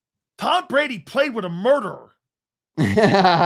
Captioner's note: laughing